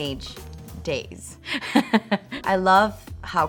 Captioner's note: laughs